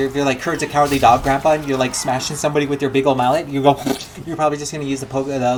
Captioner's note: splat